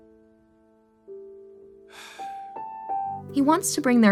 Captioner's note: sighs